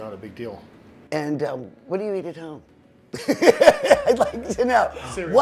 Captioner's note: laughs